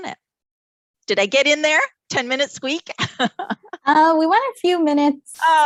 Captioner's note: laughs